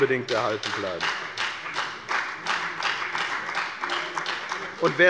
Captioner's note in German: Beifall bei der FDP